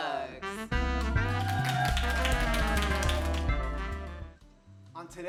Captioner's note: jazzy music; clapping